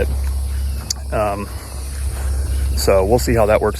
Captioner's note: birds chirping; insects chirping